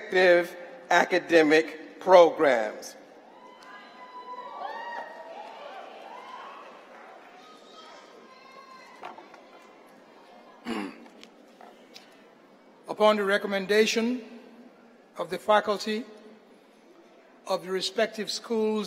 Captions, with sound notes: PROGRAMS STAND AND REMAIN STANDING? [ APPLAUSE ] >>WOULD THE CUM LAUDE CANDIDATES IN THOSE SAME DEGREE PROGRAMS STAND AND REMAIN STANDING?